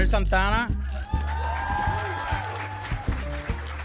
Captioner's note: applause and cheering